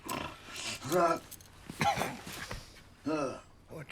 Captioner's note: coughs